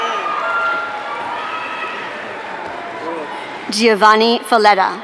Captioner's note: audience cheering